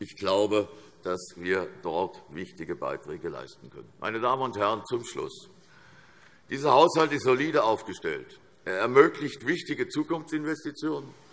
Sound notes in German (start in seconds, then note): none